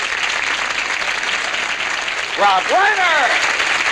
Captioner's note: applause